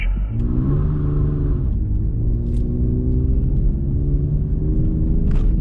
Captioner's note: soft car engine humming